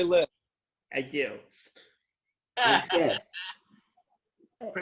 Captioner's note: laughter